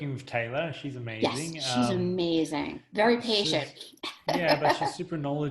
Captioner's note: laughs